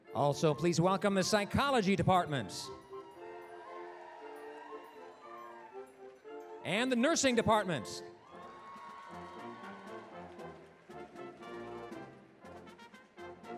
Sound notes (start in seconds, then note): 4.1 applause, cheering; 7.7 applause, cheering; 12.0 orchestral music